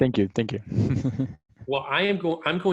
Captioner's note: person chuckles